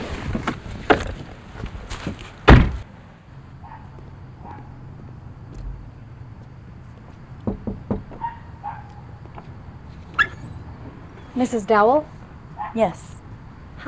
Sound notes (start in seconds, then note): 7.4 door knocks; 8.2 dog barking